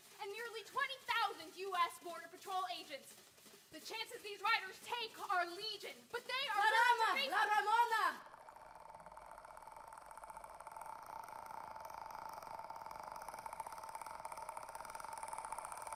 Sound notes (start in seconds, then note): 6.5 woman speaking Spanish; 8.2 gentle suspenseful music